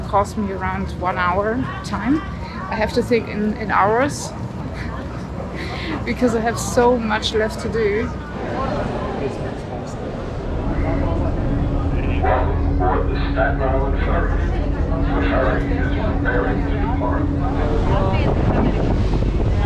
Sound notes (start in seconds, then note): 12.2 announcement over speakers